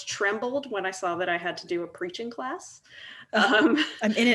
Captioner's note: laughs